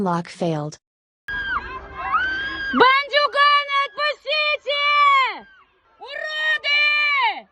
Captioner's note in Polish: w tle nerwowe głosy ludzi